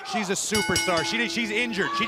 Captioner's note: bell ringing